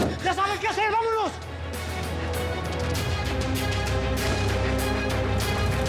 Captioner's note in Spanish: portazo